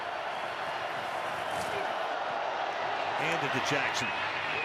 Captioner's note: cheering